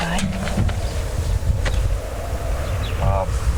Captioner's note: wind howling